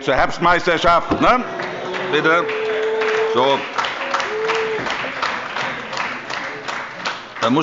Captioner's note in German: Beifall bei Abgeordneten der CDU und der SPD – Zurufe: Buh!